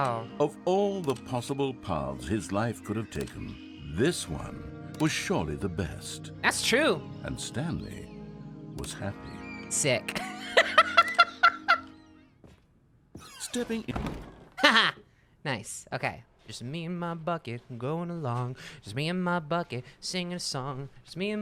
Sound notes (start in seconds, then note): 10.1 laughs; 13.1 door creaks